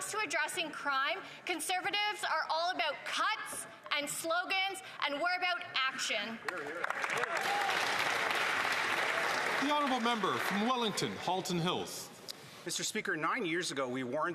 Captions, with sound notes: provincial and municipal counterparts in policing. Mr. Speaker, when it comes to addressing crime, can Conservatives are all about cuts and slogans. And we're about action. [Some Applause] [Some Applause]